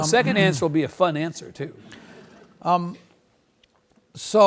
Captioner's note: several laugh